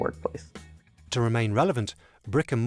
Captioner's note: voiceover